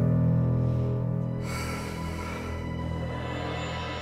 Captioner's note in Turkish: Nefes sesi; Müzik - Gerilim